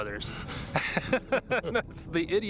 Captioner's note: laughing